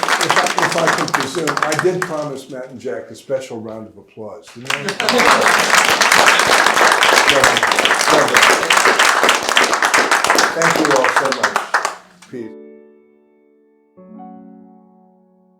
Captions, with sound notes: - And if I could be soon, I did promise Matt and Jack a special round of applause. (audience applauding) Thank you all, so much. (calm piano music)